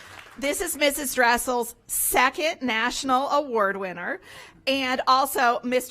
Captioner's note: applause